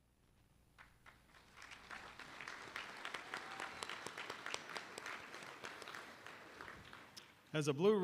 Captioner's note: applause